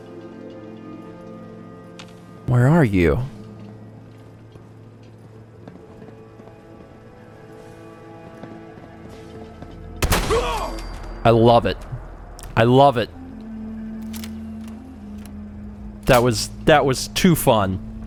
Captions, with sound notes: Where are you? *BLAM!* I love it. I love it! That was...that was too fun!